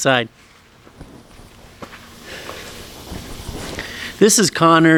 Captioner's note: footsteps